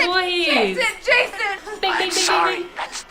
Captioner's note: jackpot Sounds